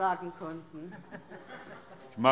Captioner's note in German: Heiterkeit